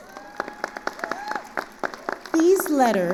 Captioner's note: attendees cheering and applauding